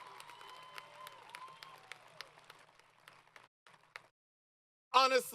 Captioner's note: applause & Cheering